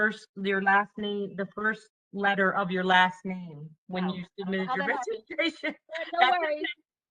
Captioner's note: laughter